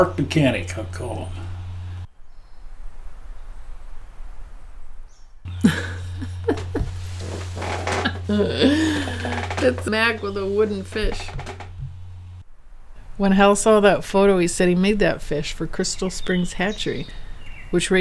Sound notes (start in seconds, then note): 5.5 chuckling